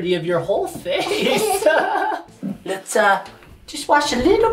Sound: group laughing

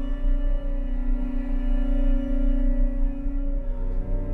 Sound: none

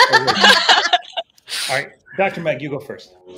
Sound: women laughing

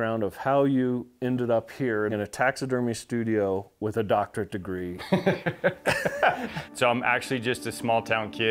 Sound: laughs

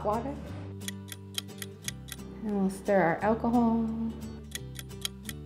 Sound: ticking sound

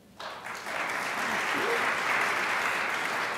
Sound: crowd applauds

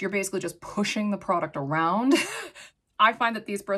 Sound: chuckles

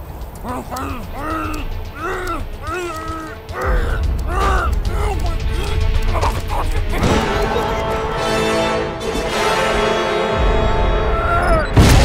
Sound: game audio

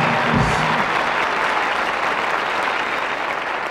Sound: audience applauding

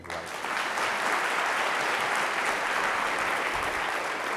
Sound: audience claps

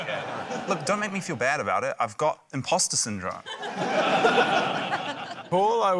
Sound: laughter

